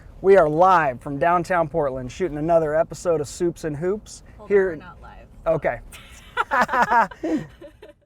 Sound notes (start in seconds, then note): 5.9 laughter